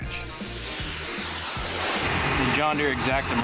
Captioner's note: whoosh